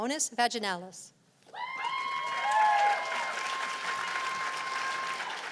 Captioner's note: cheers and applause